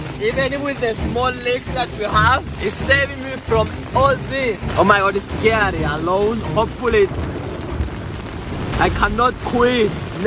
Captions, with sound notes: Even with the small leakes that we have, it's saving me from all this. Oh, my God. It's scary. Alone, hopefully… *lightning* I cannot quit.